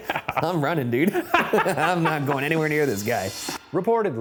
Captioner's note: laughs